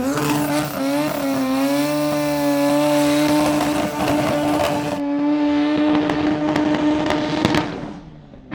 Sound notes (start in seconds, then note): 0.0 engine roaring